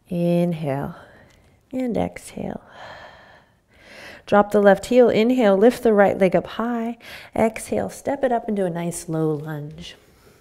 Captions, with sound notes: Inhale and exhale. (exhaling) Drop the left heel. Inhale, lift the right leg up high. Exhale, step it up into a nice, low lunge.